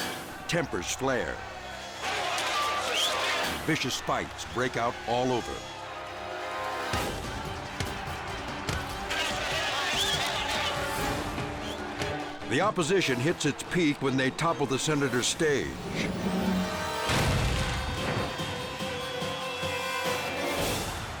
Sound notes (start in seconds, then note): 0.0 flames crackling; 7.0 loud pounding; 7.6 crowd shouting; 17.3 frantic orchestral music